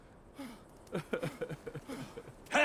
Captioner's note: sobbing